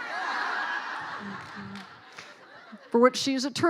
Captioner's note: laughing